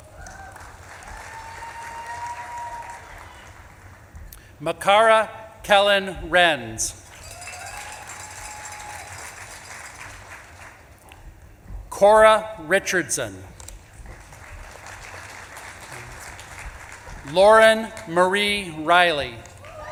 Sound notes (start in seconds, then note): 0.0 audience claps and cheers; 7.0 audience claps and cheers; 7.1 bell clanging; 13.6 audience claps and cheers